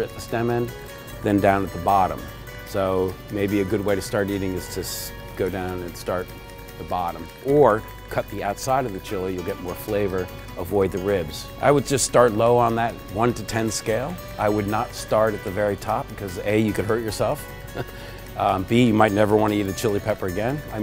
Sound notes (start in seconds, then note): 17.7 laughs